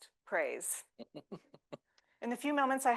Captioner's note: laughs